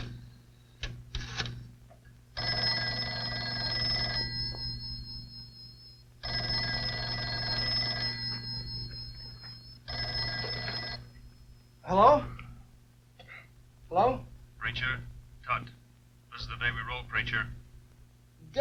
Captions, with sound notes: (telephone ringing) - Hello? Hello? - Preacher, Tunt, what's the favorite day Preacher?